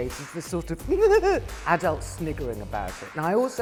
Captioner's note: giggles